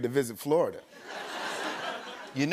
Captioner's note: laughter